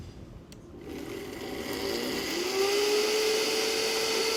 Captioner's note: blender whirring